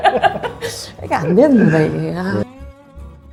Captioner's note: sigh